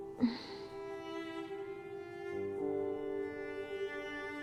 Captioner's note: Ruth groaning